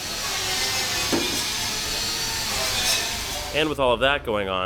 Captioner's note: grinder doing it's thing noise